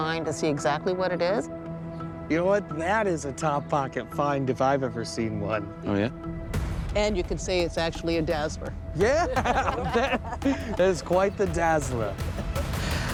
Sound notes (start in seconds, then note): 9.1 laughing